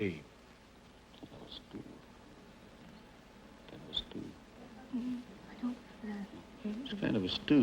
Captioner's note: whispering